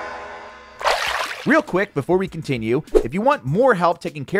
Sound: water splashing; upbeat music

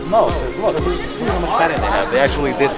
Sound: crowd talking

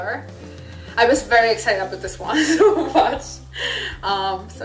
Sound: laugh

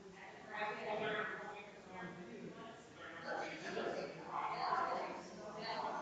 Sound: people chattering distantly continues

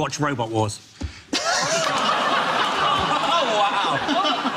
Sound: audience laughs

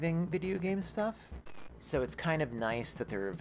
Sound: static

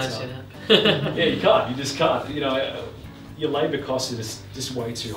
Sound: laughter

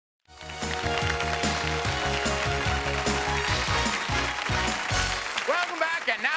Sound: applause

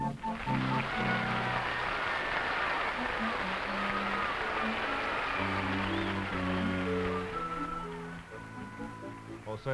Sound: applause over music

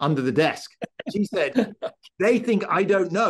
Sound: laugh

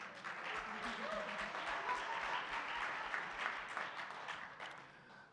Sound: audience clapping and cheering

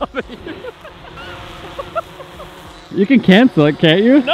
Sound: laughs

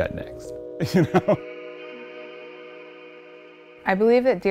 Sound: laughs

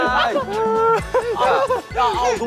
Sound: members start laughing out loud

